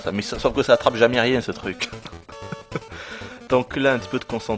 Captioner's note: laughs